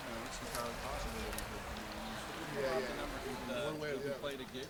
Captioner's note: murmuring